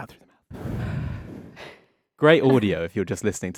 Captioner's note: all exhale